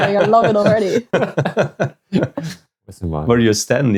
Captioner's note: laughing